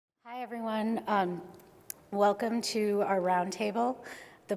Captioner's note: voiceover